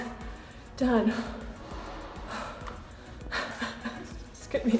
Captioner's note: panting